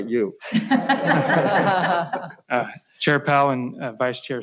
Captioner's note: laughs